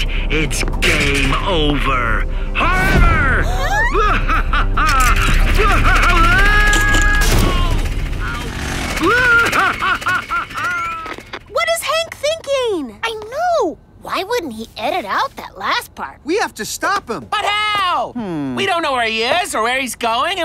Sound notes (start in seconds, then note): 3.6 Hank laughing; 4.8 all exclaiming; 5.5 Hank screaming; 7.3 Hank groaning; 9.0 Hank screaming excitedly